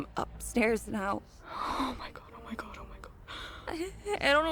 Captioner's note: under her breath